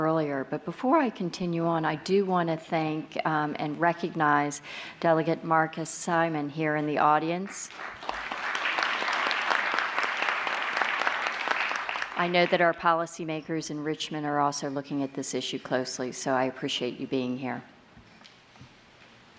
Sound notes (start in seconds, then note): 7.6 applause